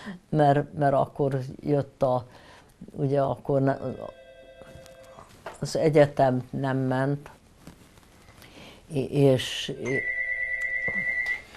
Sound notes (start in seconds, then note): 3.8 phone ringing; 9.8 door bell